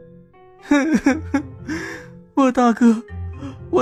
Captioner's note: sniff